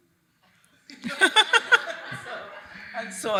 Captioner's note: attendees laughing